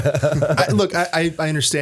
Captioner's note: laughter